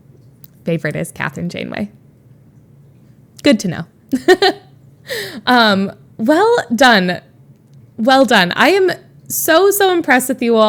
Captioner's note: Emma laughs